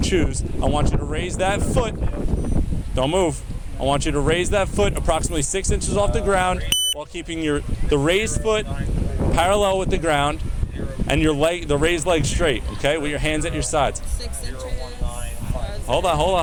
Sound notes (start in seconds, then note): 14.4 radio chatter